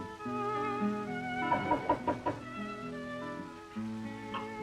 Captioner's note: knocking at door